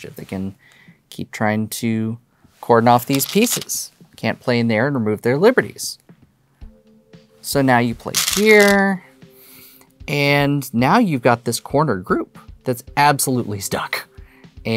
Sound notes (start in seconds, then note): 6.0 new song begins; 8.1 stones rattling